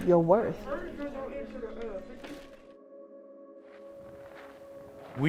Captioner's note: kids chattering